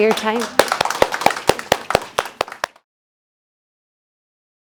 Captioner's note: applause